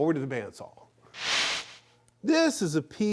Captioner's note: panning sound